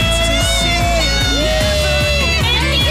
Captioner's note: cheering